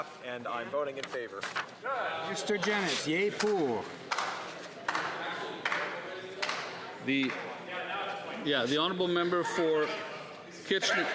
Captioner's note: calling of recorded vote